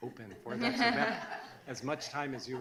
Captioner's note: laughing